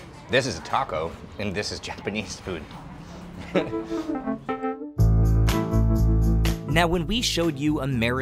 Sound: laughs

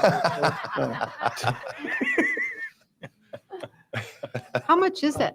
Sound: board members Laughing

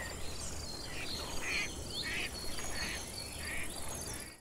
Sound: nature sounds

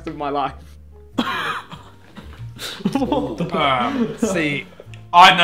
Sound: everyone laughing

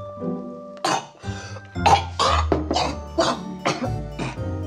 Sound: coughing

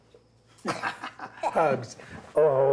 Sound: Josiah laughs

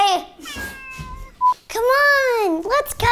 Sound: cat meows

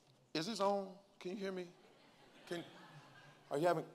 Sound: congregants laugh lightly

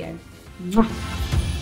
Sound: kiss

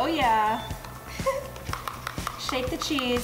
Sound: giggling

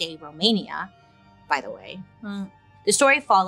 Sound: lightly groans

